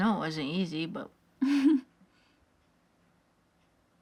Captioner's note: laughs